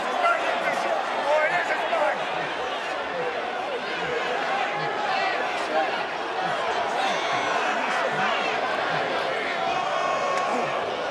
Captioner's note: yelling